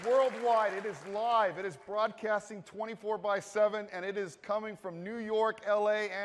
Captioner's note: applause